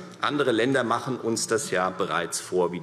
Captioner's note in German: none